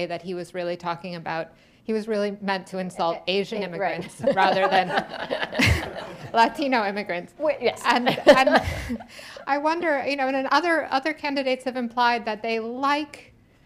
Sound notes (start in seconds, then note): 4.0 laughter; 7.4 laughs